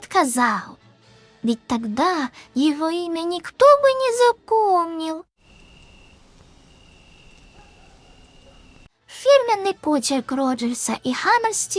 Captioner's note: crickets